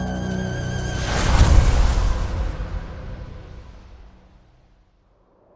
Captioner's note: sandstorm